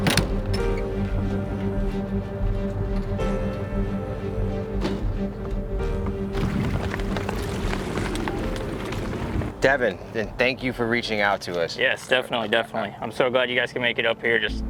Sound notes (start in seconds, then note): 0.0 door latch clatters; 6.9 flag flapping